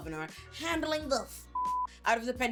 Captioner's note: beep